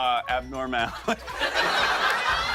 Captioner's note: laughter